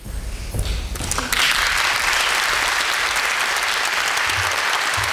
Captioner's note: audience applauding